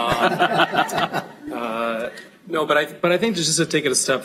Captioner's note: laughter